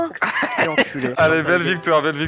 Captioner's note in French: rires